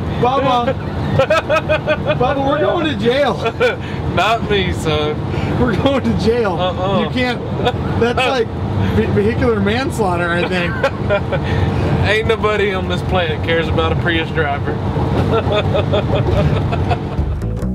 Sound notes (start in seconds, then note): 0.4 laughs; 6.1 chuckles; 10.4 chuckles; 15.2 laughs